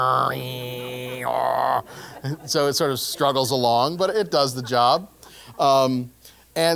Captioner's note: laugh